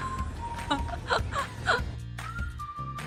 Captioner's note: laughter